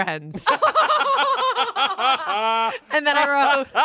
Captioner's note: everyone laughs